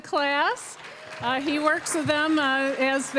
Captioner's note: applause